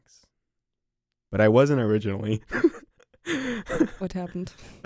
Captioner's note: laughs